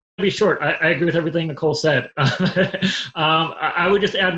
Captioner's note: laughs